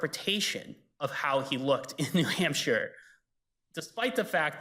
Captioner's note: chuckles